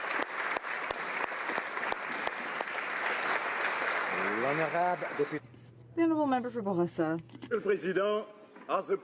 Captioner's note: applause